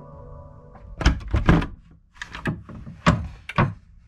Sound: door thumps

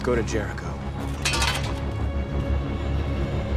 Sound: rake clatters

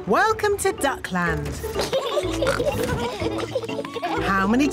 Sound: both giggling

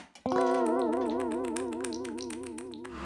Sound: nibbling

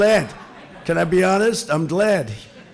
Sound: laughter

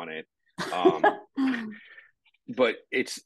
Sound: chuckling

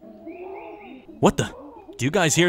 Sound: animals chattering

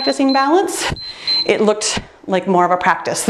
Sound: timer beeps; laughs

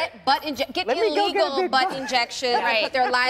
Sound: laughter

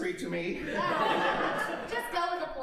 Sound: audience laughing

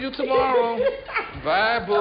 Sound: laughs

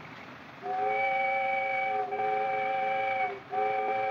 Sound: whistle Blows

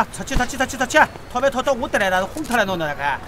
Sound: shanghai dialect

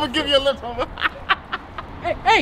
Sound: laughing

